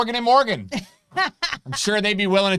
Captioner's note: laughing